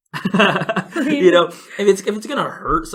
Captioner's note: laughs